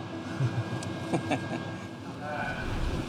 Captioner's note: chuckling